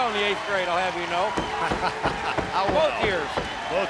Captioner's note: laughing